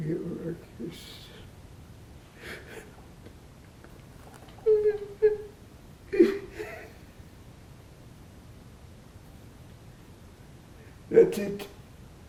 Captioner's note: crying